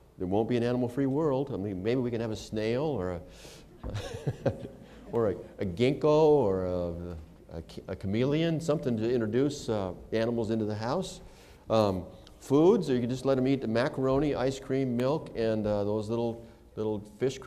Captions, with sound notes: There won't be an animal-free world. I mean, maybe we could have a snail or a [laughter] ginkgo or a chameleon, something to introduce animals into the house. Foods, are you just going to let him eat macaroni, ice cream, milk, and those little fish crackers?